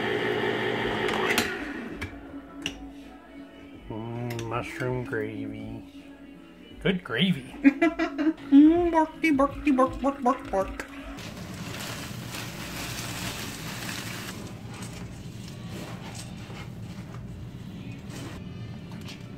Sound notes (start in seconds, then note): 7.6 laughing